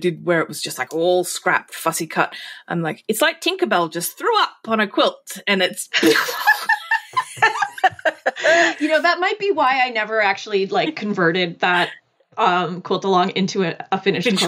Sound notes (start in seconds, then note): 6.0 laughing